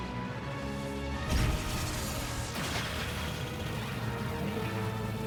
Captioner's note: explosion